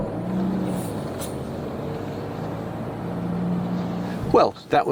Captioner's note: furious engine revving